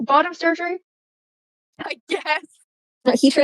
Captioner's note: laughing